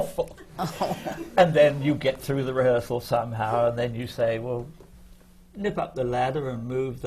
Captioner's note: laughter